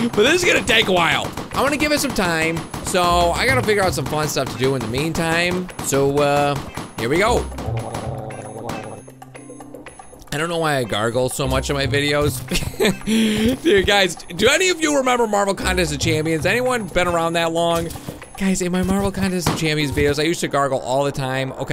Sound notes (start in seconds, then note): 7.8 gargling; 12.5 laughs